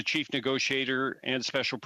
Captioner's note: speaking in French